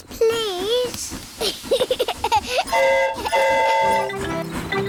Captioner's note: giggles; train horn toots